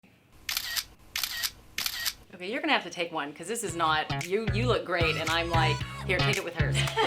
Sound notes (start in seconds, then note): 1.8 camera clicking; 6.6 laughing